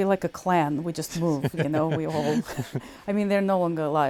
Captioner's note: laughs